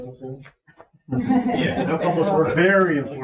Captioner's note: people chuckle